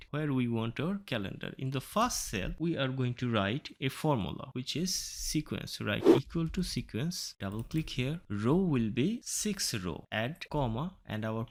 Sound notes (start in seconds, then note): 6.0 woosh Sound